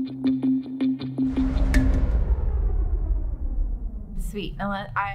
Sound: whooshing down sound

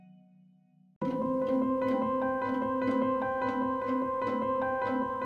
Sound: gently chiming bells

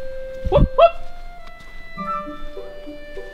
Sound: whoops; whoops in the distance

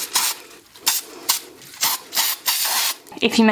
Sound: can hisses

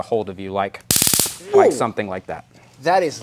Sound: taser buzzing

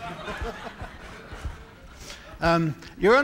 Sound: laughter

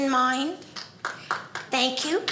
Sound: audience applauding

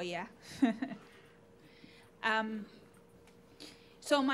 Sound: laughing

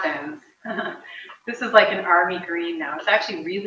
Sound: laughs

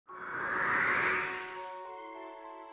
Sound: magical whoosh

